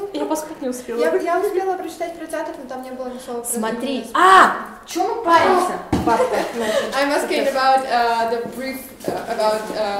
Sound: speaking Russian indistinctly

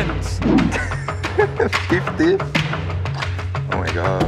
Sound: laughs

